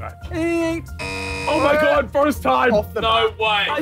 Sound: buzzer buzzing

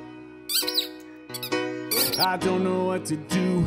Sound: toy squeaking

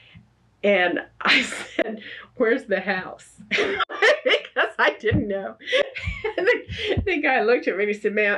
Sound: laughs

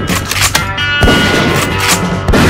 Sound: shotgun loads; shotgun Fires

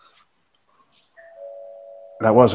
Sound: door bell rings

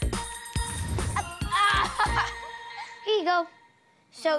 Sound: laughs

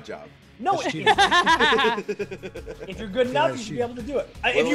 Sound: laugh

